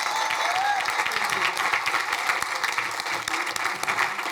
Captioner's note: crowd cheering